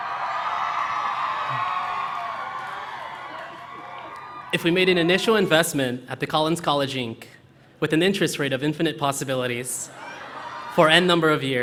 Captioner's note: cheering